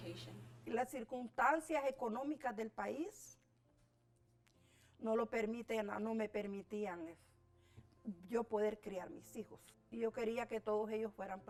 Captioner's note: speaking spanish